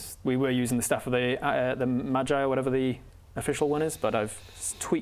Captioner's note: none